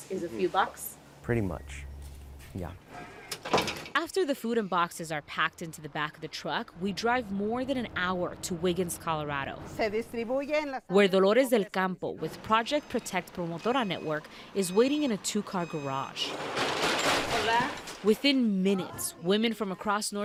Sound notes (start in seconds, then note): 9.1 speaking in foreign language; 15.6 truck door clanking